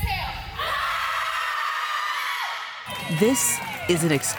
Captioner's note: screams